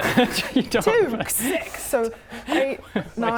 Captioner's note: laughing; still laughing